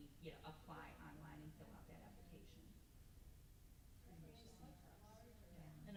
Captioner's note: mutters